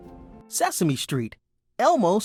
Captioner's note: voiceover